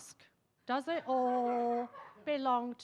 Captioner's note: attendees laughing